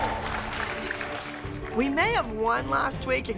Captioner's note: cheering